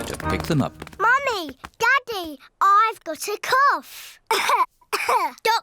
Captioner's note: coughs